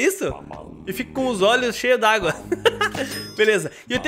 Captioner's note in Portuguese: risos